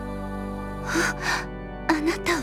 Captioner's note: gasp